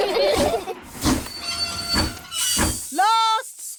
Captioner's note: laugh; train chugs